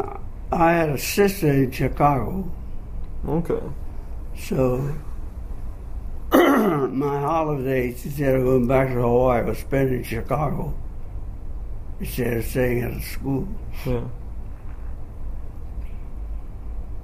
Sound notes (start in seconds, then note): 6.3 clears throat